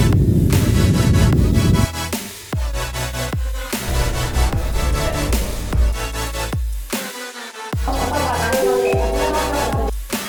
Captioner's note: airplanes